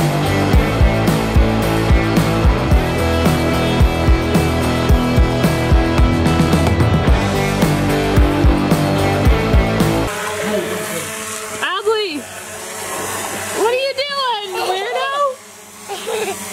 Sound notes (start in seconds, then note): 15.7 laughs